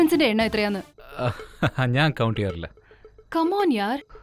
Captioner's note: Chuckles